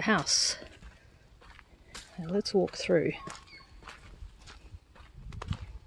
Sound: footsteps

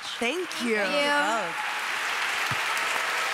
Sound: applause

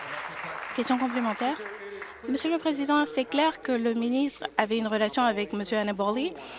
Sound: applause

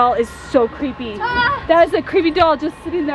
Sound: kid screaming

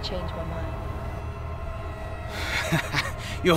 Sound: henchman laughs

